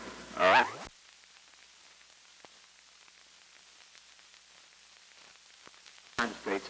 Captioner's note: silent